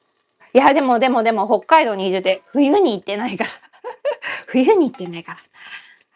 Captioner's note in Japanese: 笑い